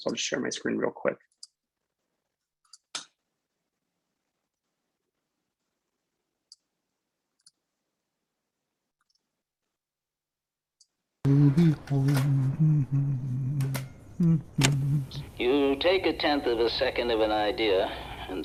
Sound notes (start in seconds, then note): 2.9 typing; 11.2 humming